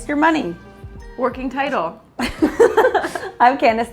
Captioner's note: both giggling